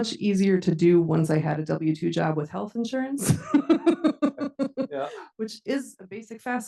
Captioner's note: laughs